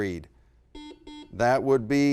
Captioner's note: beeping